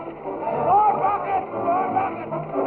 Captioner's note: yelling